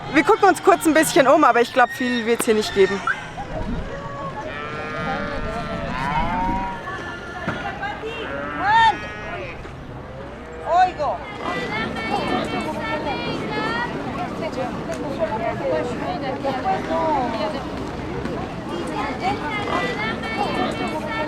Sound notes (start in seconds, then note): 4.1 cows moo; 11.5 murmurs & market calls